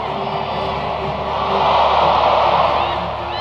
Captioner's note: cheers